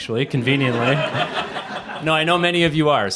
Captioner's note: laughter